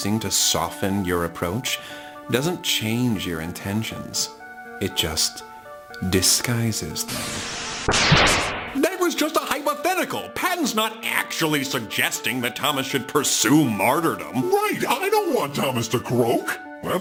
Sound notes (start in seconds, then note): 7.1 word bubble hisses; 7.9 word bubble clanks